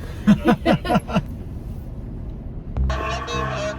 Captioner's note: laughing; intense music